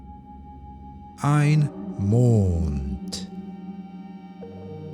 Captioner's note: german